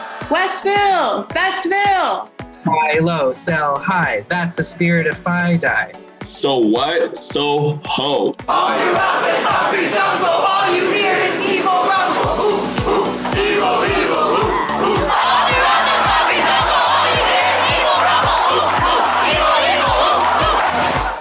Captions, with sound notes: West Vil, best Vil. - Buy low, sell high, that's the spirit of FiDi. - So what, SoHo. (Chanting) All throughout the concrete jungle all you hear is E-Vil rumble. ooh, ooh, E-Vil, E-Vil, ooh ooh. (Chanting) All throughout the concrete jungle all you hear is E-Vil rumble. ooh, ooh, E-Vil, E-Vil, ooh ooh.